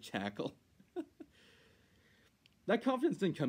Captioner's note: laughing